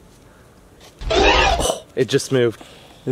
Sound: scrambling sound

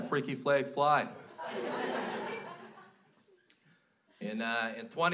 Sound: crowd laughs

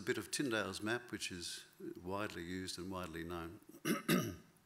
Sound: clears throat

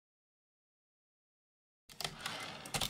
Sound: typewriter return slide

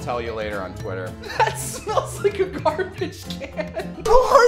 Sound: laughter

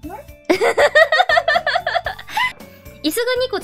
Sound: laughs

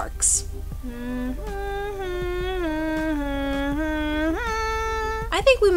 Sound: nervously imitating Walt Disney castle jingle with hands

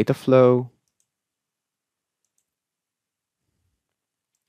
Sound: mouse clicking

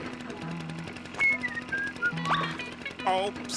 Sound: whistling

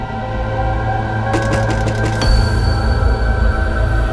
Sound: knocking on the door

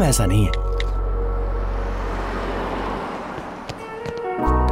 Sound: car engine revving

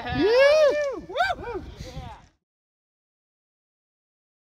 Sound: whooping yells

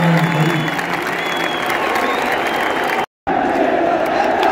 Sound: clap

